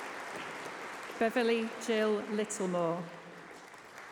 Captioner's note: applause